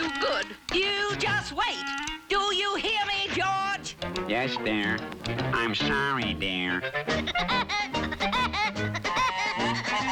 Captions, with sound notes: Do you hear me, George? Yes, dear. I'm sorry, dear. (maniacal laugh)